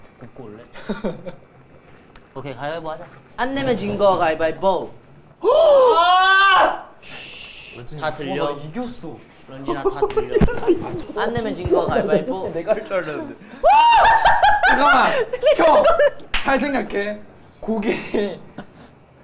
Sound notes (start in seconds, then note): 5.3 argh; 7.0 shhh; 9.8 giggling